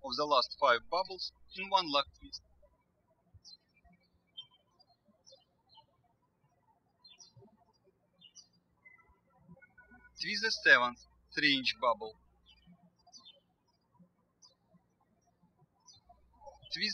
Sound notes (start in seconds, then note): 3.3 bird chirping